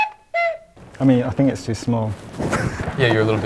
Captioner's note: animal sounds; laughs; chuckles